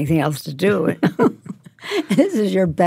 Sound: both laugh

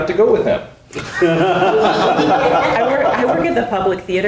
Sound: people laughing

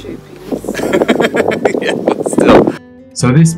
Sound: laughs

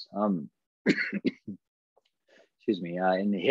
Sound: coughs

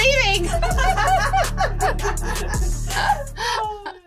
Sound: laughter

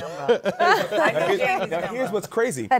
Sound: laughter

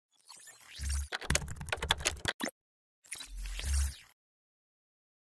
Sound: keyboard keys typing

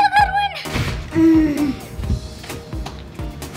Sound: happy sigh

